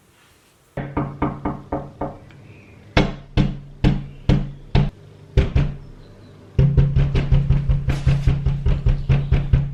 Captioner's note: knocking